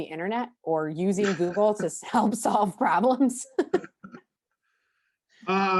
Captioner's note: laughs